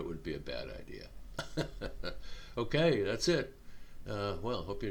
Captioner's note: chuckling